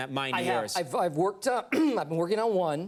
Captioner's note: throats clears